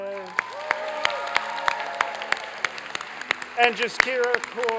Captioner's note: applause and cheering